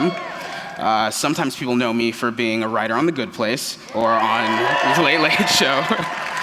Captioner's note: cheers; cheers